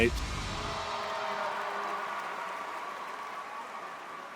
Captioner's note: crowd cheering